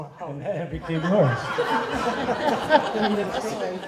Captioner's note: laughter